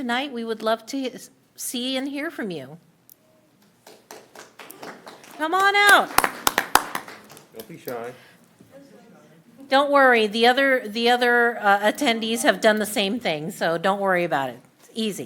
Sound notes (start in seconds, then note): 8.0 applause